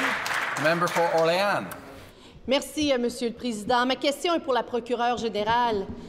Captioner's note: applause